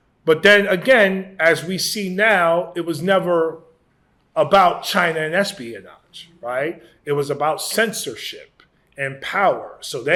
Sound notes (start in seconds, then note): none